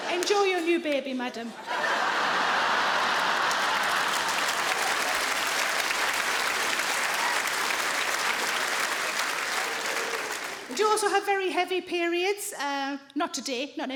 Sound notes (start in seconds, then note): 2.2 audience laughing; 3.5 audience applauding; 3.5 audience laughing